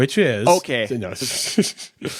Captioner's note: faintly speaking; both laughing